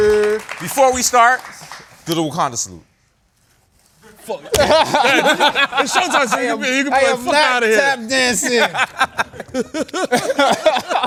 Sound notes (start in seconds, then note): 4.4 laughter